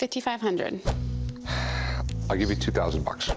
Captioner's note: sighs